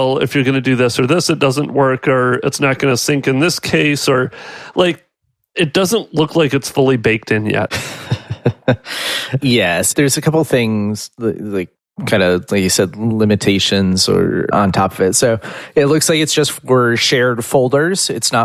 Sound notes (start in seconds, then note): 7.7 laughs